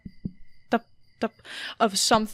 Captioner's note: tapping